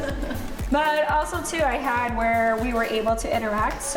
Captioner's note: laughing